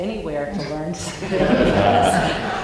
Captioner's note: laughter